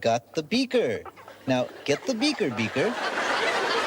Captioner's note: laughing